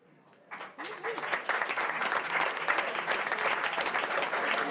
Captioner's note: applause